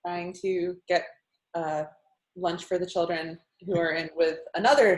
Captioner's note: giggles